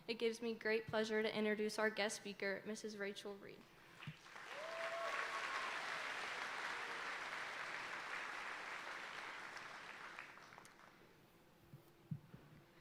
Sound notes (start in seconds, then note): 4.1 audience applauding